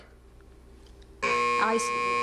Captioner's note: buzzer